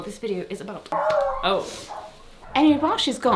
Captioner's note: dog barking